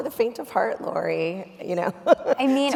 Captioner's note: laughs